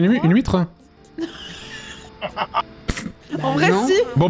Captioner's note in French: rires